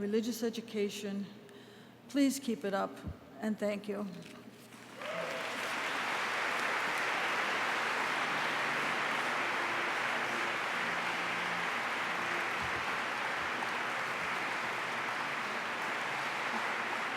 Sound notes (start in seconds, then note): 8.6 applause